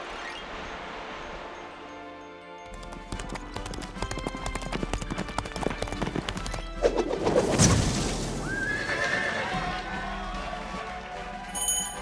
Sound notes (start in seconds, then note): 2.7 horse galloping; 8.7 neighing; 10.1 cheers and applause